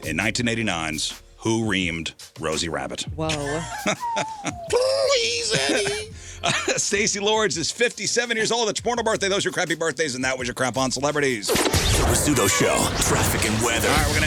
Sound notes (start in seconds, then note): 3.2 laughing